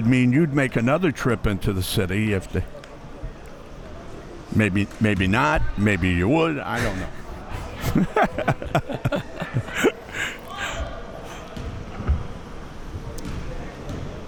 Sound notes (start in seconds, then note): 8.2 laughing